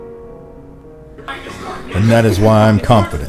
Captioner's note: continue to laugh